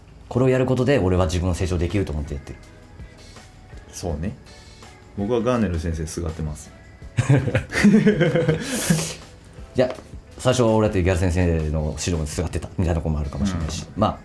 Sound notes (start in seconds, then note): 7.2 laughs